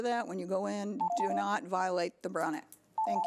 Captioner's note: timer beeps; timer beeps